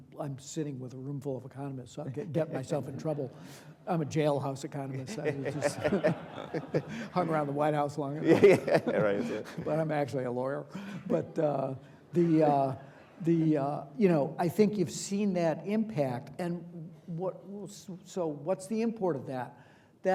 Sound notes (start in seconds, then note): 4.9 audience laughing